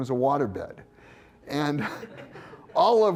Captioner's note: laughter